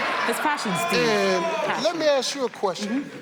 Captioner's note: audience cheers